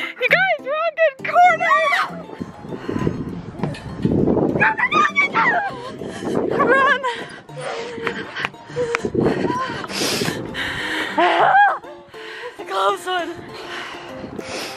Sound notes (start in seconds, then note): 1.7 screaming